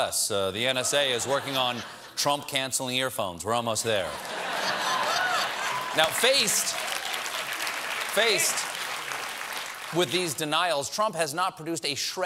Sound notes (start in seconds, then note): 6.5 applause; 6.5 laughter